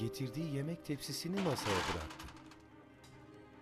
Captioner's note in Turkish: Tepsi bırakma sesi